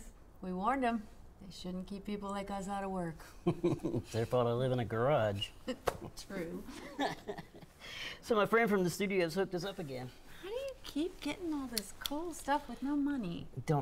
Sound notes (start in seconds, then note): 3.4 chuckles; 6.7 chuckles